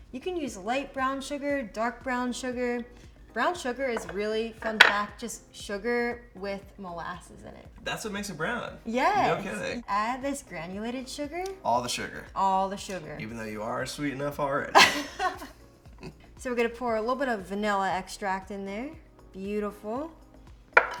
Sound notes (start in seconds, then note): 14.7 laughs